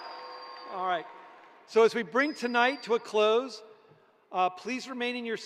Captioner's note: cheering